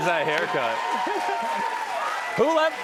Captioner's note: cheers and applause